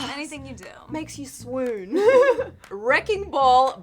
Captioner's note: giggles